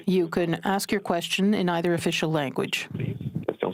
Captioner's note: speaking French